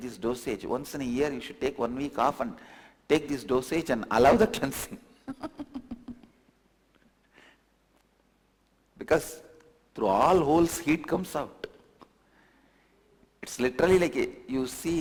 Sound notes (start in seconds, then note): 5.3 laughs